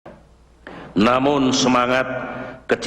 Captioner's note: non-english speech